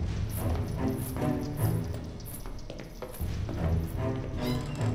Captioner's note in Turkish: Zincir sesi